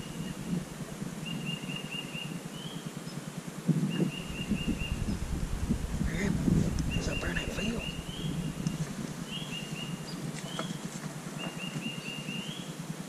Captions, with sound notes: (birds chirping) (wind blowing) There's a bird in the field.